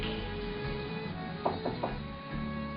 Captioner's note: knocking on door